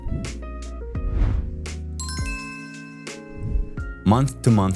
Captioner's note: logo whooshing; lively music